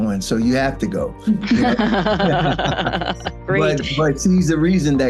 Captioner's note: all laughing